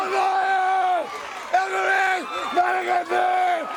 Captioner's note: crowd cheering